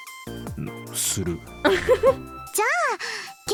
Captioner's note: chuckles